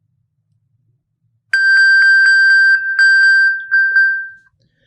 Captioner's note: electronic bell